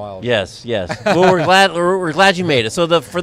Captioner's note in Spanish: risas